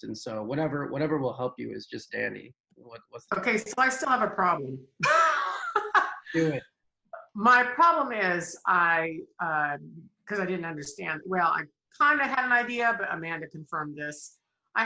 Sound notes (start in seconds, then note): 5.1 laughing